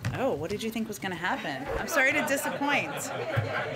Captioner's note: laughter